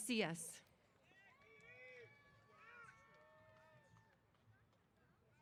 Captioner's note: cheers